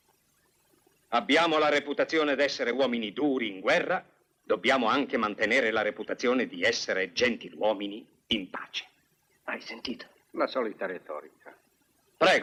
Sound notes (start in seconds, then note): none